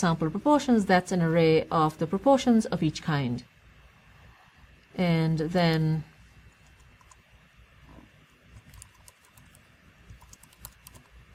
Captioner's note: pause